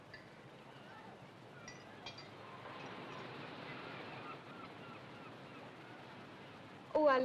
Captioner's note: sound of ocean and seagulls